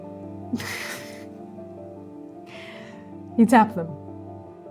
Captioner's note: chuckling